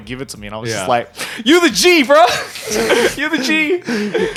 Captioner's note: chuckles